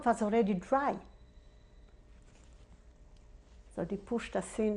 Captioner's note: pauses for 3 seconds